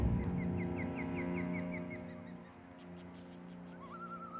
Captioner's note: gulls calling